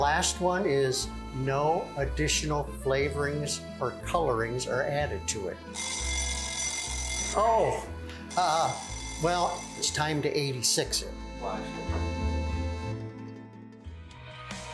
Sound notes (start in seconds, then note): 5.7 bell ringing; 12.0 gentle music